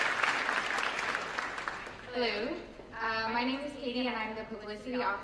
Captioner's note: applause